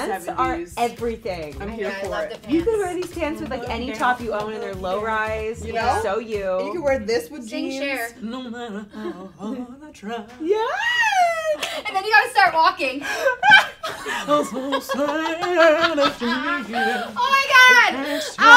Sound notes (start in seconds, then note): 12.9 laughing; 14.4 singing